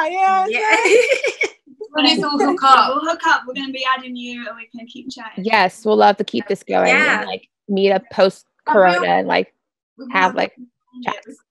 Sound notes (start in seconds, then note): 0.6 laughter